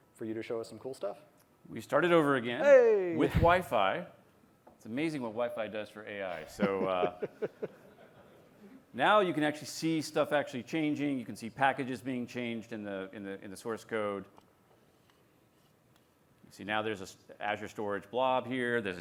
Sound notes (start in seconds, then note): 6.4 laughter